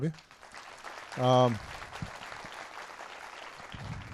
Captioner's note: applause